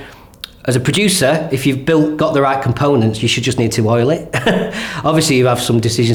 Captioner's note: laughs